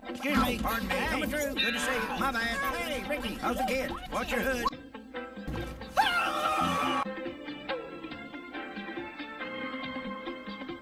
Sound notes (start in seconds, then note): 5.9 screaming; 7.4 retro music continuing